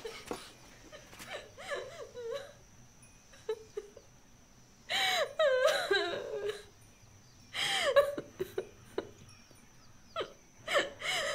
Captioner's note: crying